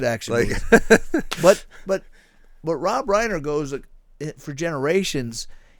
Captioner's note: laughing